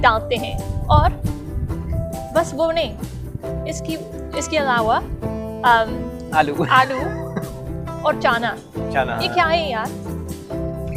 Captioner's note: both laughs